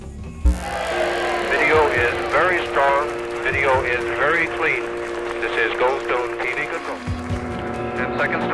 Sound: cheering

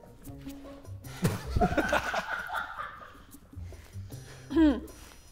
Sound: Sidemen laughing

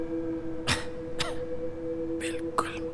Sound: caveman coughs

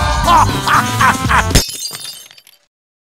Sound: Demoman laughs happily; glass shatters

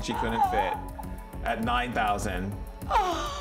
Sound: laughing

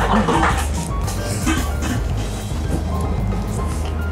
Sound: vigorous eating

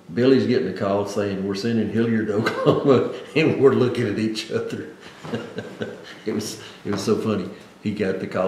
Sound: laughs

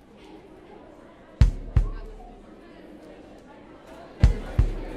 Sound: heartbeat

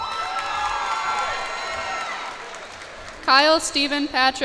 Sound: cheers and applause

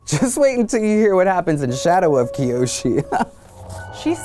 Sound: laughs

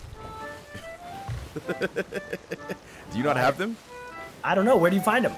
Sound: laugh

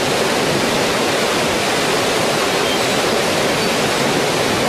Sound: water rushing loudly

